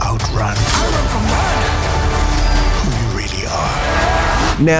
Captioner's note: voiceover